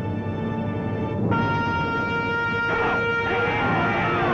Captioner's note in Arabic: بوق البوق